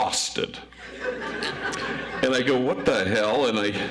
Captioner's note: audience laughs